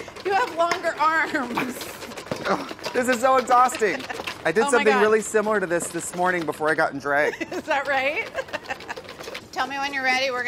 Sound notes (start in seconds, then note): 7.1 laughs